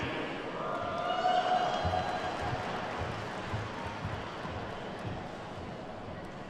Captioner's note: attendees whooping and clapping